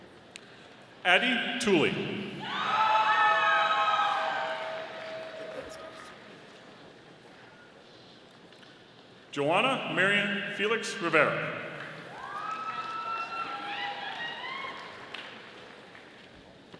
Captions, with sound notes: Addi Tooley. (audience cheering) Johanna Marian Felix-Rivera. (audience applauding)